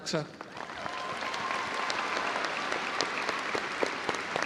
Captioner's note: audience applauding